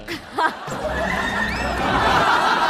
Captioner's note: hahahaha